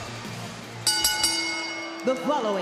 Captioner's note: bell rings